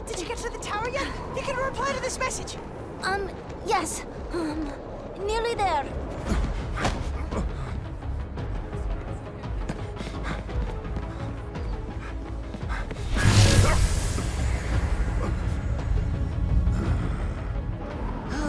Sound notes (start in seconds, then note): 6.4 suspenseful music; 8.1 grunts; 8.8 suspenseful music; 9.6 footsteps; 9.7 heavy breathing; 17.6 growls